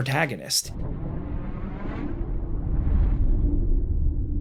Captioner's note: audio distorting